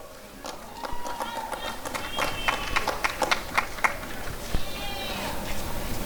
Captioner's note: applause and cheering